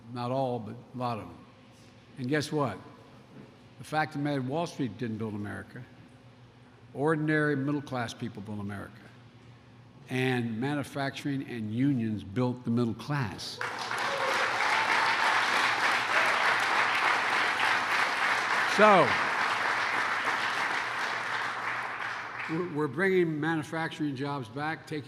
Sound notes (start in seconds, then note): 13.5 applause